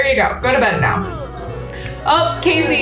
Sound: Kacey yawning

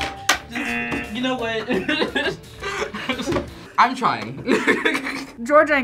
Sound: laughs

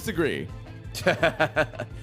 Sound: laughs

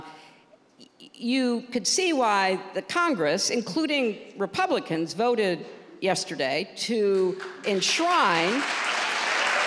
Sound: applause

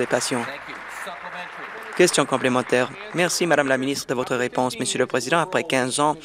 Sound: applause

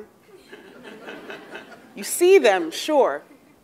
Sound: laugh

